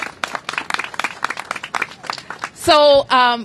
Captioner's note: applause